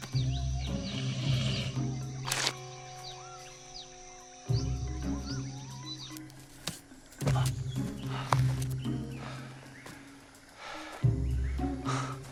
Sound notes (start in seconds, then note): 0.7 hissing sound